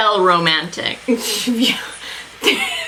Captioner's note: laughs